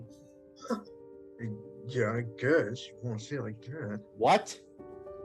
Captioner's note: murmurs